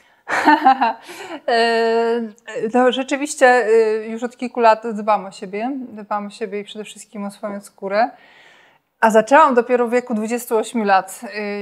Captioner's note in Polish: śmiech